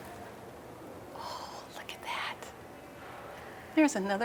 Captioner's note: whisper